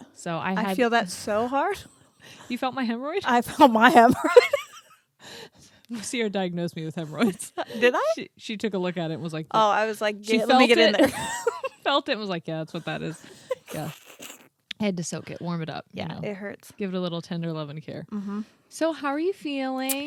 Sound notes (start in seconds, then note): 4.0 both laughing; 7.6 laughs; 10.9 both laughing